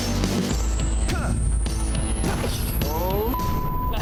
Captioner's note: instructor yelling; instructor grunting; beep